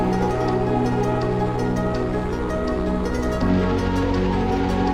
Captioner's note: helicopter blades whirring